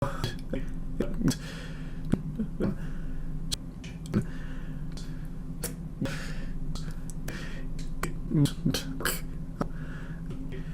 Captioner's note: breathing